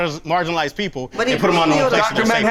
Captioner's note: overlapping chatter